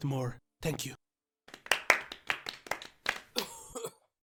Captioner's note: scattered polite applause, cough; no audible dialogue